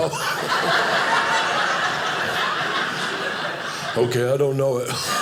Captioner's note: audience laughing